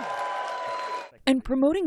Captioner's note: cheering